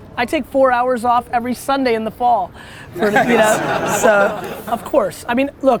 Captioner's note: group laughter